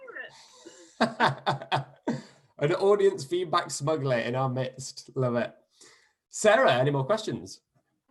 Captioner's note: laughter